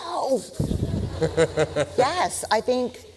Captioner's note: laughter